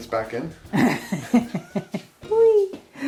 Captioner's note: laughter